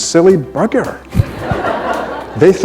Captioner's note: laughter